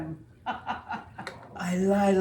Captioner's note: laughing